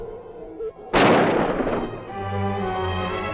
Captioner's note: gun firing